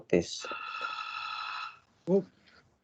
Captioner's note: phone Rings In Background